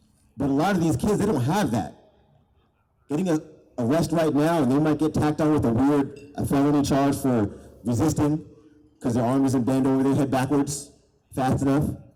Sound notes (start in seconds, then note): none